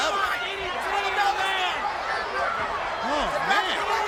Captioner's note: crowd cheering